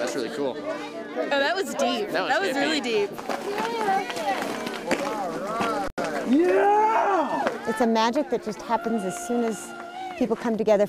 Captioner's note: cheering